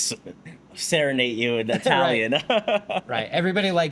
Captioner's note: laughs